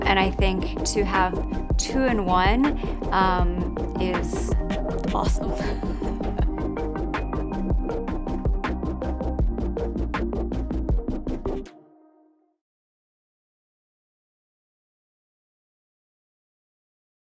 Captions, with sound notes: And I think to have two in one is awesome. (giggles) (upbeat music)